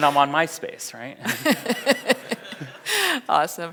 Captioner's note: audience laughs; laughs